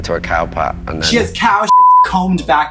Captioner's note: beep